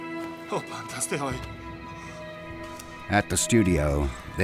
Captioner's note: people speaking in Greek